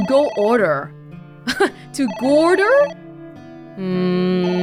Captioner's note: chuckles